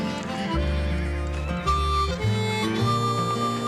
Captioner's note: horses galloping and neighing